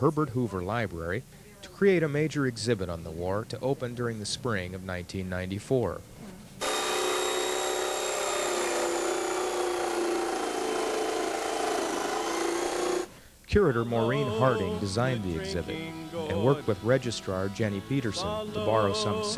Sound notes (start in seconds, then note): 6.6 sounds of jigsaw cutting